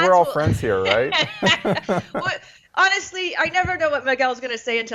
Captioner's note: laugh